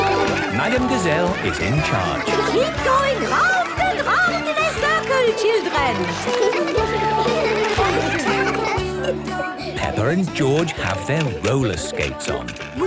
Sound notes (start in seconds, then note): 6.1 laughter; 8.9 giggling